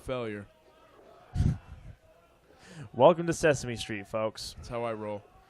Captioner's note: lightly laughing